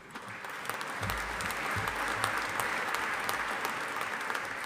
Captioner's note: audience applauding